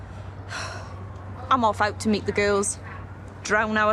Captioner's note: she huffs